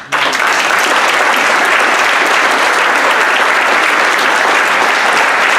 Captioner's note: audience applauding